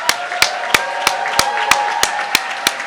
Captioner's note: cheers